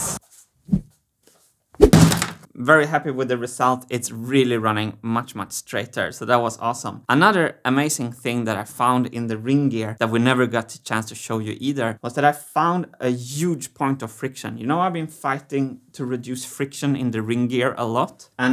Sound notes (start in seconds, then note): 0.2 hammer whirl; 1.8 whack